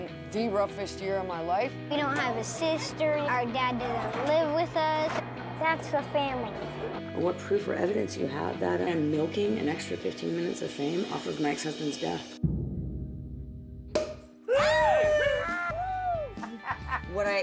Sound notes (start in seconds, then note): 13.9 pop!